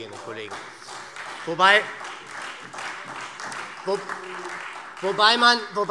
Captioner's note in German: Beifall SPD, Freie Demokraten und DIE LINKE